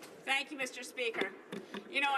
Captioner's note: speaking French